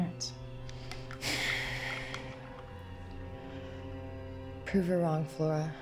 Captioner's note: Claire sighs